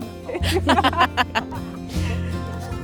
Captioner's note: laughter